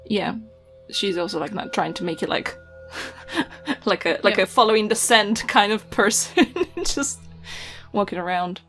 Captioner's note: laughs